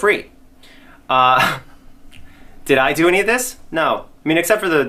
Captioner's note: laughs